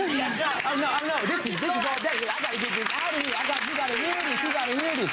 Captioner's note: crowd cheering